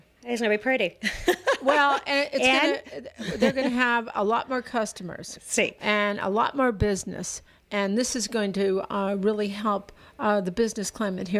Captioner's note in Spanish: Hablando ingl\s